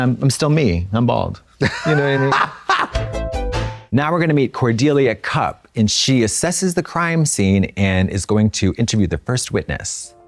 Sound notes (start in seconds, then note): 1.6 Trixie chortles; 2.9 synth bop